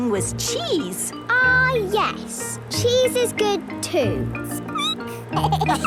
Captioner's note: squeaking; laughter